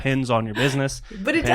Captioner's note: laughs